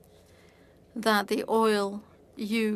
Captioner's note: speaking French